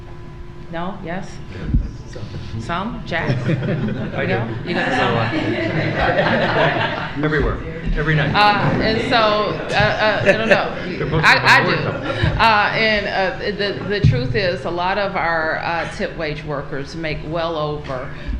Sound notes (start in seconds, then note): 10.1 laughter